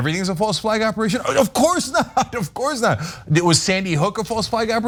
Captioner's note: laugh